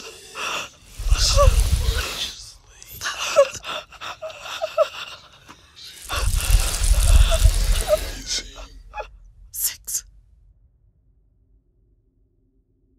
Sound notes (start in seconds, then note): 7.4 terrified breathing